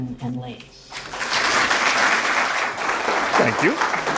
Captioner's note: audience applause